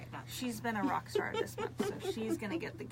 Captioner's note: laughs